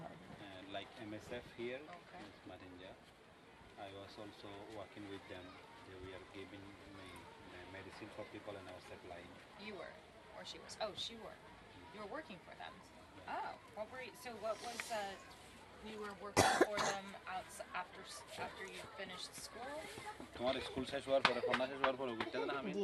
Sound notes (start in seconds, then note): 16.3 coughs